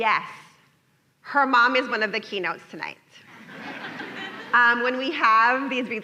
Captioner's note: laughter